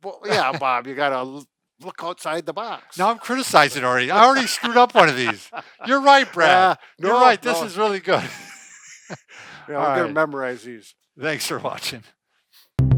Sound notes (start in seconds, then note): 3.7 laughing; 9.3 laughs